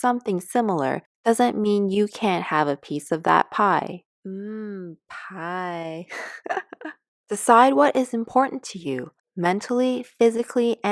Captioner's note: laughs